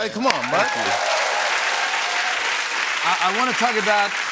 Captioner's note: cheers and applause